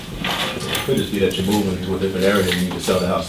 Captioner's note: voiceover